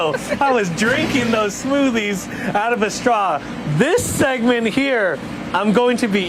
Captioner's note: laughter